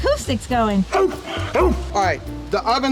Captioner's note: barks